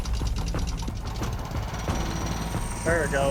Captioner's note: engine rumbling; drilling